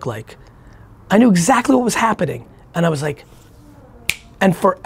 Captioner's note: snaps